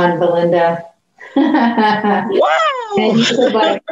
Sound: laughs

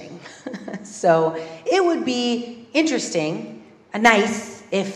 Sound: laugh

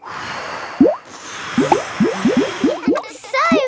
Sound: all blowing

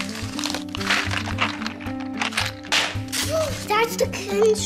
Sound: papers rustling

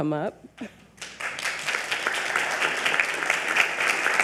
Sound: audience applaud

